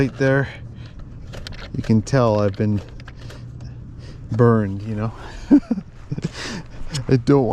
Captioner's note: laughs